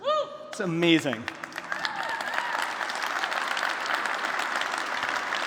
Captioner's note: applause